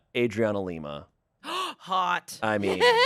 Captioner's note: gasps